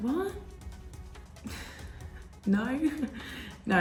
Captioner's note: chuckling